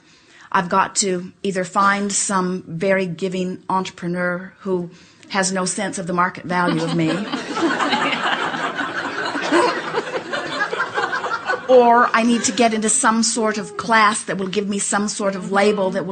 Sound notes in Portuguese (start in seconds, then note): 6.7 o público e a convidada riem